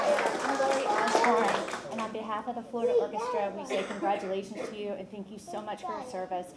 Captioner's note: applause